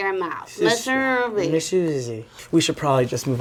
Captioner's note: both mumbling